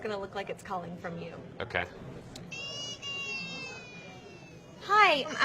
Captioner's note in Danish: Lyden af en baby, der græder i baggrunden